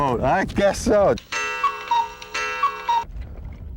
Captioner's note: more Cuckoo Clock sounds